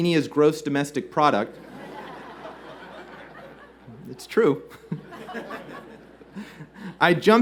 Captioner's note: laughter